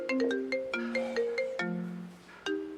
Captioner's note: phone Ringing; sigh; phone Ringing